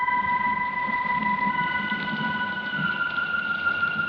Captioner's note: wind blowing; rain falling